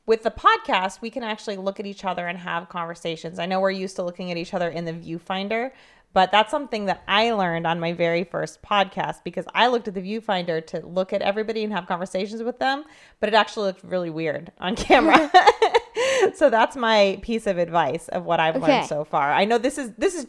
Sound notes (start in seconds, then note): 15.9 laughs